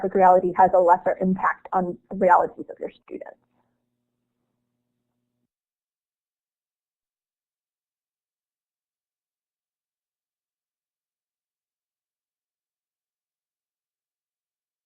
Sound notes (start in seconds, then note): 3.3 silence